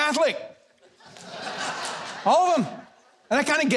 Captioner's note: audience laughs